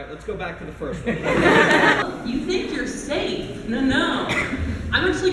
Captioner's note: laughter